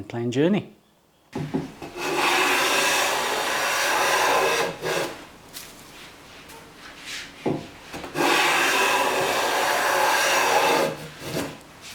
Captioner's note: Hand Plane Sound